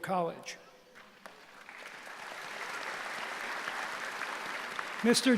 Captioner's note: applause